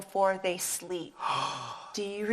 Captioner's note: sighs